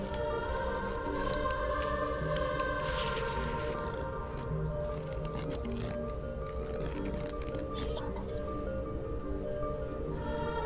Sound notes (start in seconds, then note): 8.1 under her breath